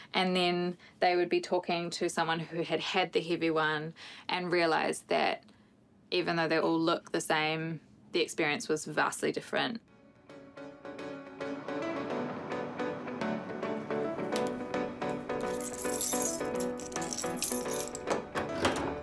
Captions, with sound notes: And then they would be talking to someone who had had the heavy one and realised that even though they all look the same, the experience was vastly different. (UPBEAT MUSIC) (KEYS JINGLE)